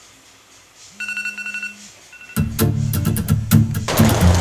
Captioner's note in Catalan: Sona despertador